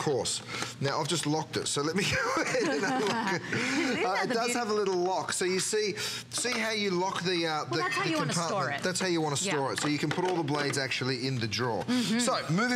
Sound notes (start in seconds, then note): 2.1 laughter